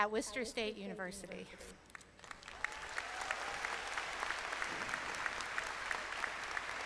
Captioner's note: applause